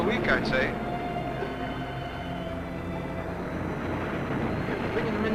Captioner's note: waves crashing